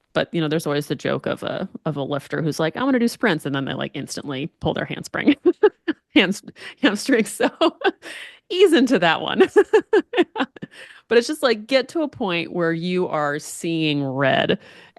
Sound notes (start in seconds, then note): 8.7 laughs